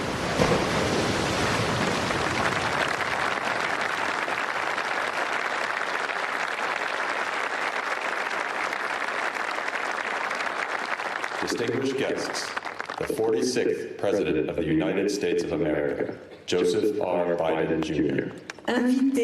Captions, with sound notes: THE MAIN HEROES ARE ON THI CEMETERY WE SHOULD NEVER FORGET THEM. WE SHOULD NEVER FORGET THEM. LOT TO [ APPLAUSE ]